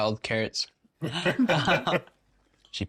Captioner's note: laughing